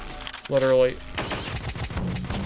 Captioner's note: gunfire